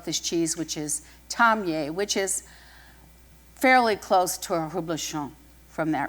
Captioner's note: french